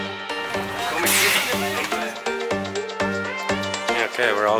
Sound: bus hissing

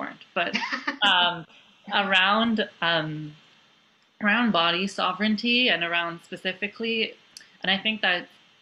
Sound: laughter

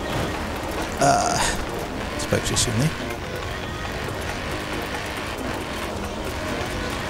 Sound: ahhh

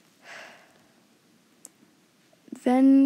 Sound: lightly sighs

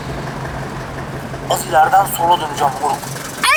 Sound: Serdar Gps sound

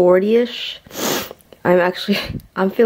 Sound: sniffles

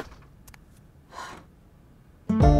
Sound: sighs

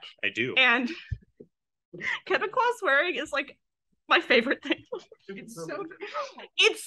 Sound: laughs

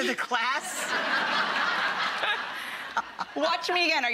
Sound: laughing

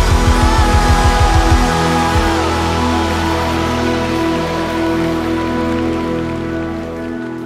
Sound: audience applause

